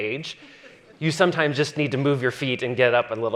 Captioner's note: audience chuckling